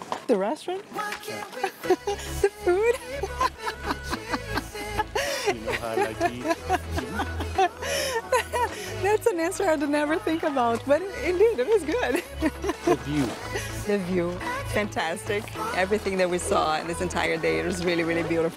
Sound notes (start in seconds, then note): 3.7 laughs